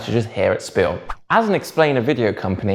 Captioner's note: page whips